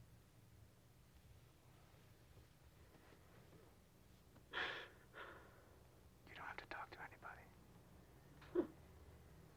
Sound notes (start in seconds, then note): 6.1 whispers